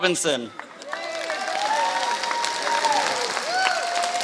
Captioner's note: applause